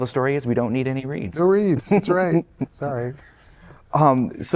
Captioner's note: laughter